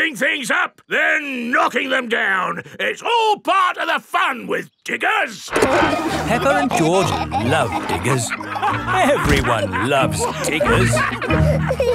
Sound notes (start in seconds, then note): 5.5 peppa and george laughing